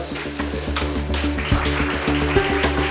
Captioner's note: applause